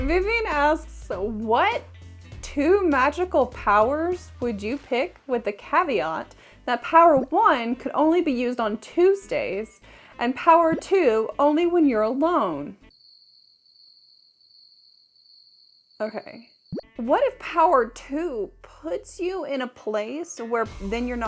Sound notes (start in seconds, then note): 13.0 chirping